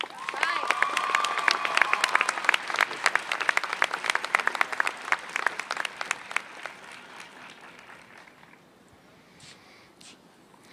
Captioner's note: applause